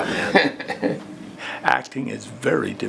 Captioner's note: laughing